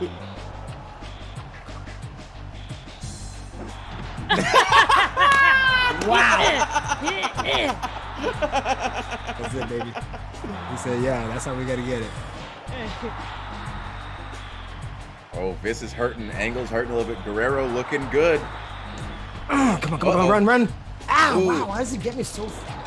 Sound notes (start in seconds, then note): 4.2 laugh